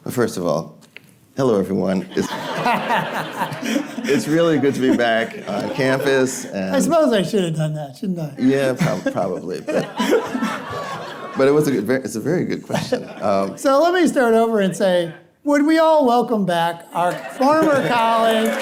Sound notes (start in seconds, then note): 2.1 audience laughing